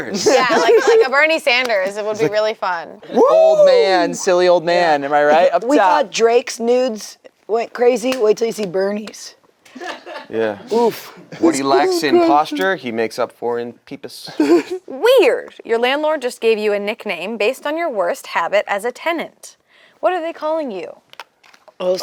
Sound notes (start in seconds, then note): 9.7 staff laugh